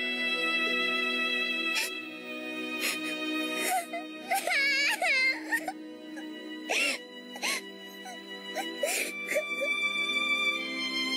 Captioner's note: more crying